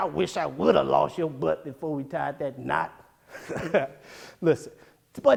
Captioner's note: laughs